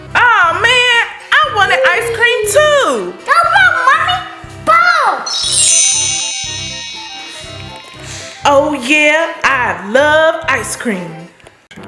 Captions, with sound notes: - Oh man, I wanted ice cream, too! - No problem, mommy! Boom! (magical ting) - Oh yeah, I love ice cream!